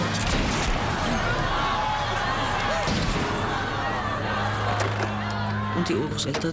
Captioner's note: two gunshots